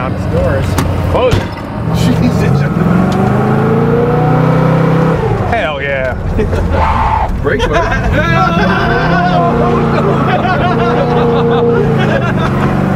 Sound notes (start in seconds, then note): 3.2 car revs; 8.6 guys laugh